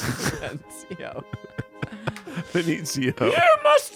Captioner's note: everyone laughs